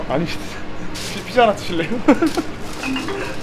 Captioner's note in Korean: 웃음